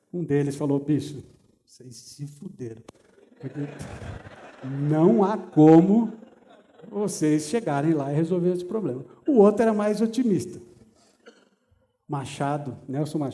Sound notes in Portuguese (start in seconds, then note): 3.0 risos